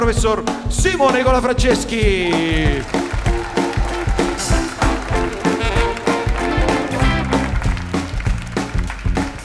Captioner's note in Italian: Applauso